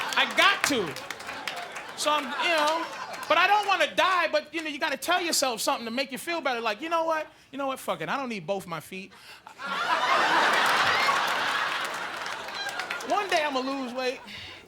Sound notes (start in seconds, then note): 9.5 audience laughing